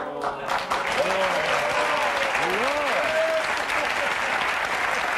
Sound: audience applauding

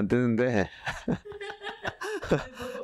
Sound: laughs

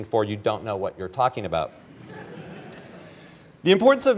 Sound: laughter

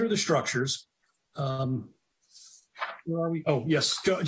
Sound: papers rustling

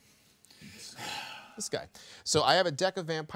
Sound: man sighing

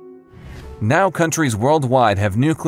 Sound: air whooshes

